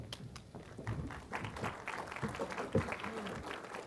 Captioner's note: applause